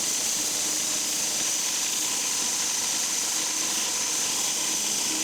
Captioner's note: saw buzzing continues